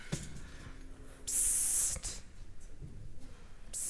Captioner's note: pssst